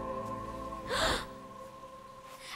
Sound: gasping

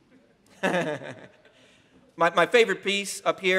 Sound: laughing

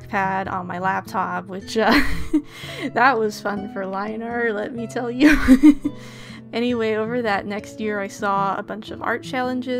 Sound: laughs

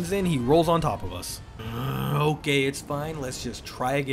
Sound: groan

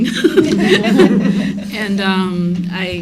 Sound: laughter

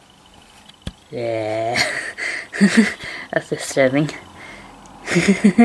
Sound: laughs; laughs

